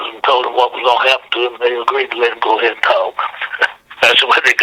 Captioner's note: laughs